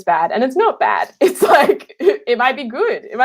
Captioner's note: laughing